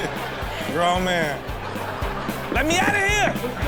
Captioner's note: crowd laughs